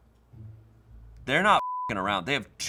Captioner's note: beep